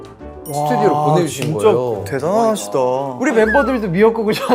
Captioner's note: impressed